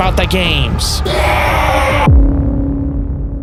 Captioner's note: growling